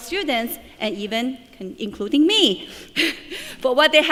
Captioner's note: laughing